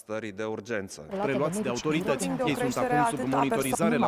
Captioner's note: chatter continues